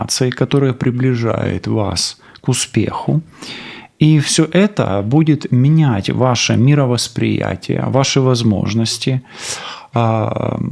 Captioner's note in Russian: фыркает